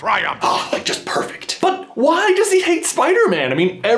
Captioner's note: ahhh